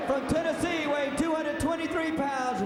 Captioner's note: crowd cheering